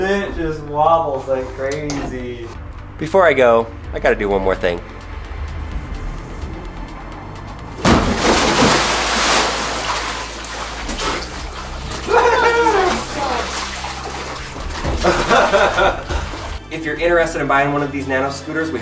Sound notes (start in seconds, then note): 8.3 water splashing; 11.9 laughs